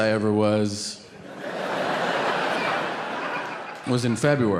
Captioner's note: audience laughing